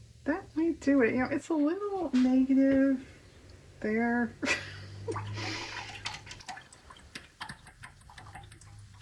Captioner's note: laughs